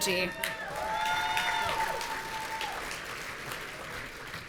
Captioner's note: audience cheering